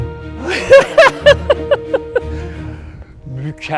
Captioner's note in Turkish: kahkaha